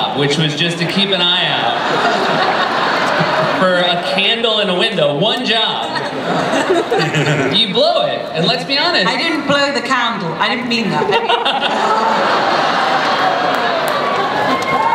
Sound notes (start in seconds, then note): 1.6 laughter; 11.0 laughter